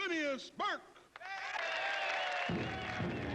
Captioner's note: cheering